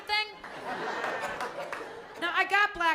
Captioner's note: laughter